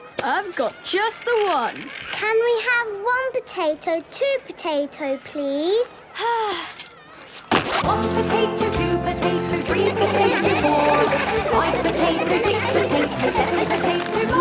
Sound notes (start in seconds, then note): 6.2 Belinda sighing; 9.6 laughter